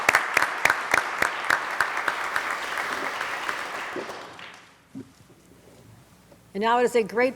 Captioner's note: applause